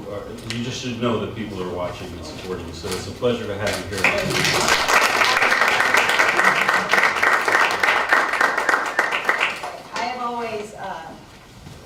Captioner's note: applause